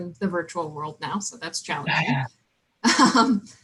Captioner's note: laughing